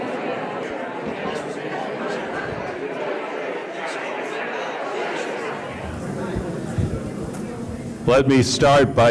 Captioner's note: crowd Noise